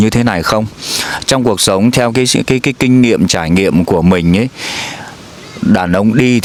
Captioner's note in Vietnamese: khịt mũi